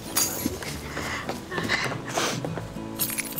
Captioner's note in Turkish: Öykü ağlıyor